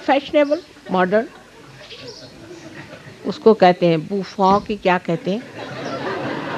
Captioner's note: yogis laugh